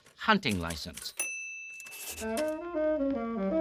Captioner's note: ding